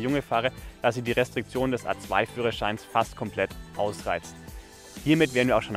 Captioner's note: german